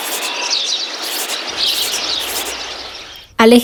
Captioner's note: birdsong